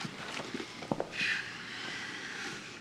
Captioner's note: sighs